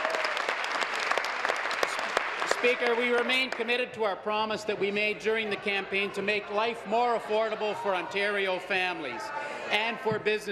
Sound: applause

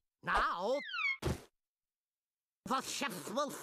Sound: wig thudding

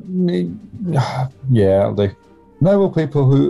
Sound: sighs

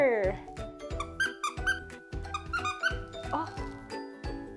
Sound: squeak

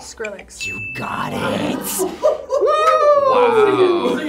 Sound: buzzer rings; group laughs

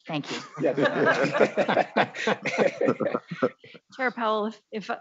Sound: all laughs

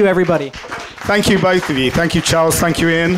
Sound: applause

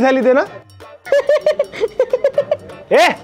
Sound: laughing

